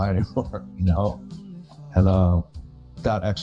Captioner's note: chuckles